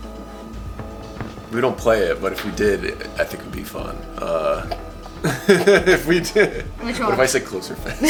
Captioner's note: laughs